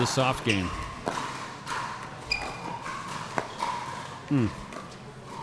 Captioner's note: ball clacking